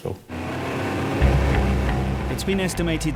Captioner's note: engine rustling; dramatic music